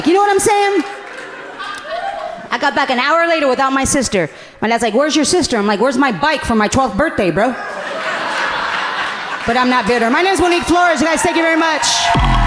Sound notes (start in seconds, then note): 7.4 audience laughing amusingly